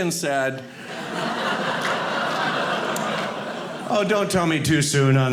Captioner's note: audience laughing